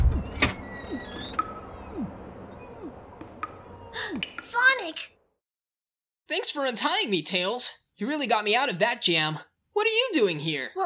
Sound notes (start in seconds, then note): 3.9 gasp